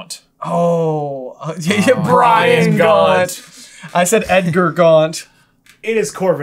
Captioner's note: laughter